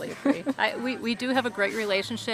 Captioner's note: laughs